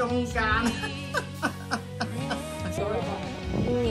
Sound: incontinence laughing

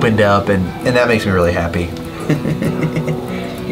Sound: laughs

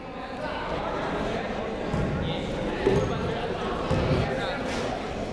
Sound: people talking in the crowd

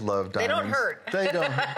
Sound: laughter

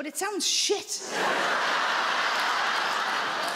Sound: audience laughs

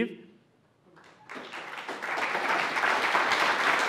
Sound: applause

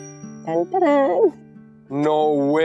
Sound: mimicking entry music

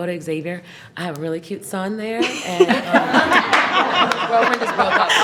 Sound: everyone laughs

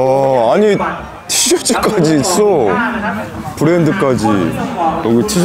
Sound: laughing

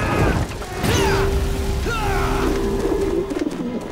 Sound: screaming; grunting

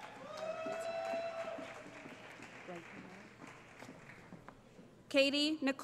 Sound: cheering

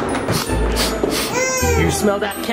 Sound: sniffs

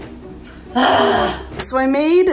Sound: groaning

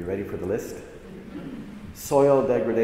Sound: audience chuckles

